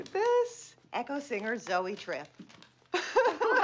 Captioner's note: laughs